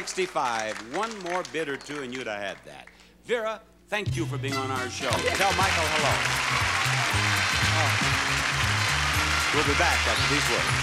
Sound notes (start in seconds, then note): 4.8 audience cheering